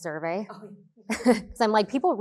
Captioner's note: both chuckling